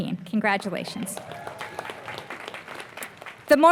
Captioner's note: applause